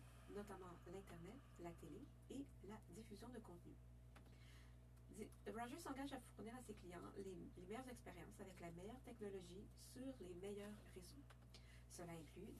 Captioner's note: speaking French